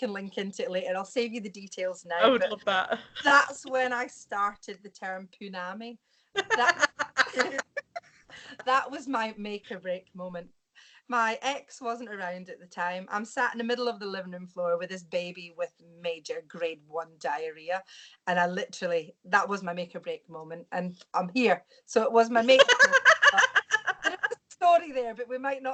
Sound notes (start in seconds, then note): 6.4 laughs